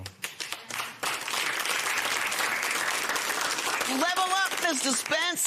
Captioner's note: applause